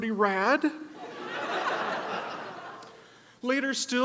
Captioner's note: audience laughs